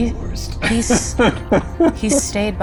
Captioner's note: chuckling